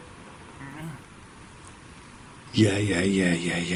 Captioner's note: low groan